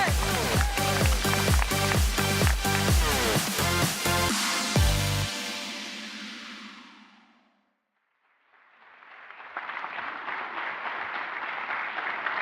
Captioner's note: applause